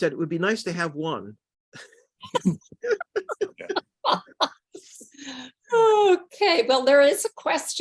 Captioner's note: laughter